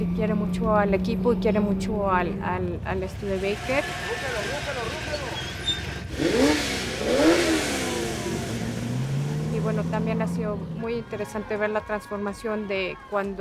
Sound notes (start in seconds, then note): 6.9 engine roaring